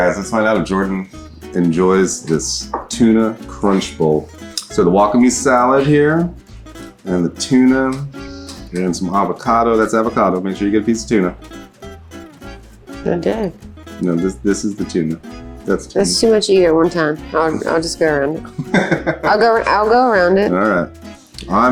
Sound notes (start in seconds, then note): 18.4 laughs